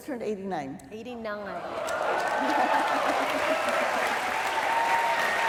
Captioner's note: applause